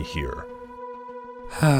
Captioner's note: sigh